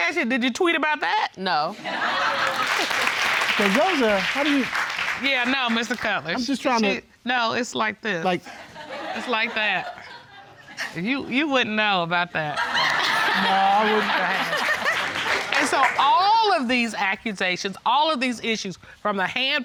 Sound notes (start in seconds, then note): 2.0 audience laughing and clapping